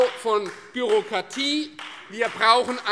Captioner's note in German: Beifall Freie Demokraten